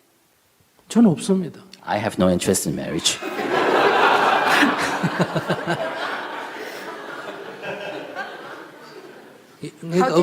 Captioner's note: /Audience/Questioner Laughter